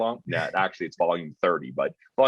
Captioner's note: chuckling